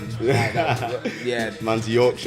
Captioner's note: laughs